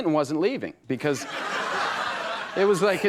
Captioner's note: audience laughs